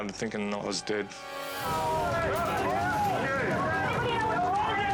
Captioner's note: people shouting